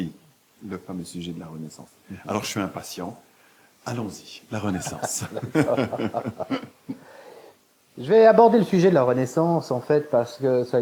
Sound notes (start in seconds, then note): 4.7 laughs